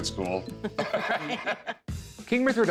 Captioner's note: both laugh